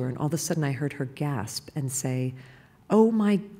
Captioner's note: none